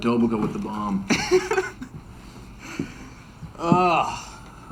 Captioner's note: Jake laughs